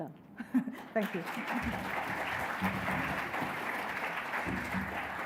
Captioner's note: audience applauds